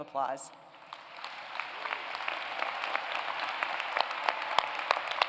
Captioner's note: applause